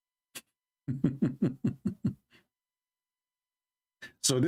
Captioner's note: Ketawa